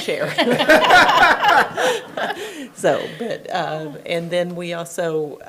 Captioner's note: attendees laughing